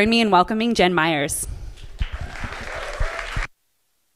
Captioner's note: applause